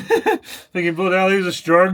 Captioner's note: laughing